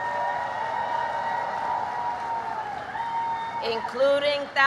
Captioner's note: applause